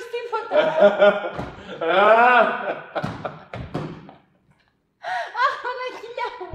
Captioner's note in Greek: Γέλια